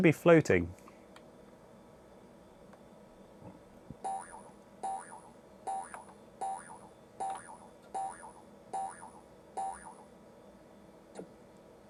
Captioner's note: boing boing boing boing boing boing